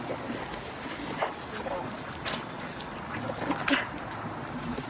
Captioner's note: dog whining